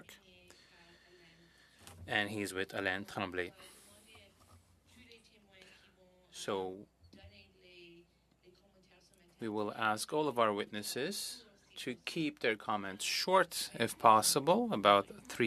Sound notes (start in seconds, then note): 10.6 speaking French